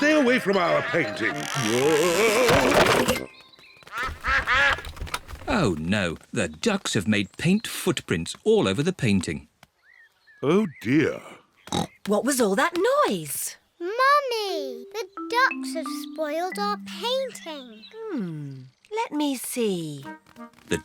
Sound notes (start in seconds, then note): 3.9 quacking